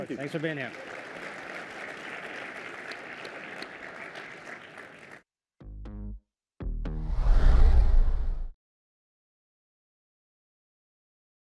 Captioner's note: applause